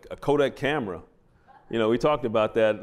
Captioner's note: laughter